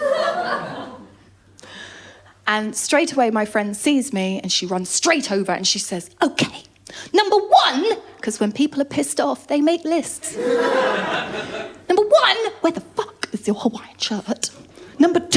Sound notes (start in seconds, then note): 0.0 laughter; 10.3 laughter